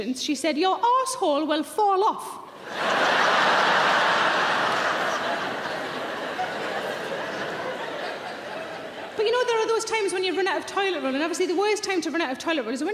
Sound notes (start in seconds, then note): 2.5 audience laughing